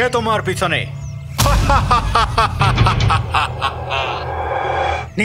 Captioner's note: evil laugh